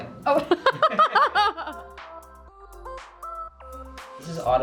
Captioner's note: laughing